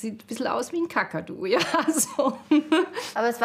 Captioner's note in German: Sie lacht